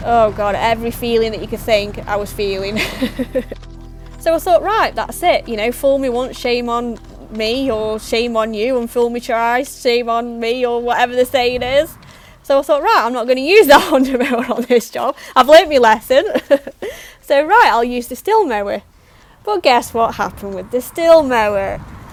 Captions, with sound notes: Oh, every feeling that you could think, I was feeling [laughs] so I thought right that's it, you know fool me once shame on me or shame on you and fool me twice shame on me or whatever the saying is [laughs] so I thought right, I'm not going to use that Honda mower on this job I've learnt my lesson! [laughs] so right I'll use the Stihl mower but GUESS what happened with the Stihl mower?!